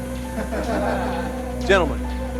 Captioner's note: squad laughs